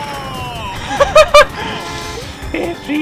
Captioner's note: laughter